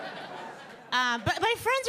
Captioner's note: audience laughing